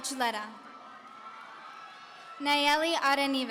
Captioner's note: audience cheering